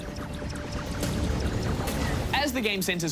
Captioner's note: weapons fire